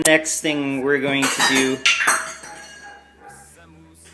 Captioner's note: metal bowls falling in background; laughs